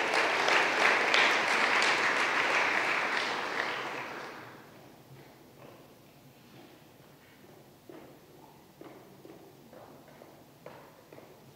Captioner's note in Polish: oklaski